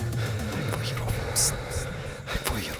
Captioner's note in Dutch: respirando con mucho pánico